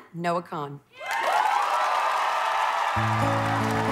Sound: applause

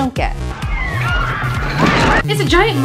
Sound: screaming

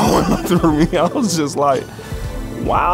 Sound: laughs

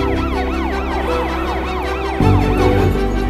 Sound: wailing continues

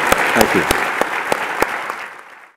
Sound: applause

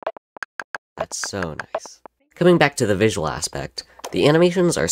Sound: more harmonious and satisfying clicks and ticks

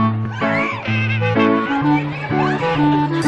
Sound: other riders screaming

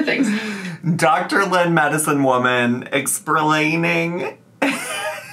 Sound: laughs

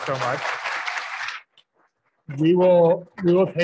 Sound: crowd clapping

